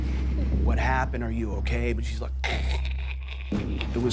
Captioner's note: choking